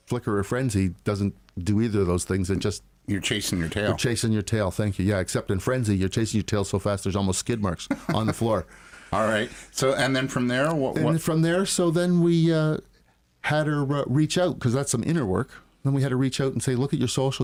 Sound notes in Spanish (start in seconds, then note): 7.8 Risas